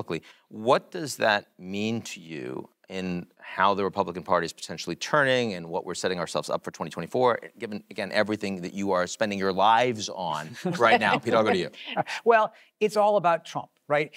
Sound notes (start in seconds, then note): 10.4 laugh